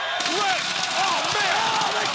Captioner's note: liquid sloshing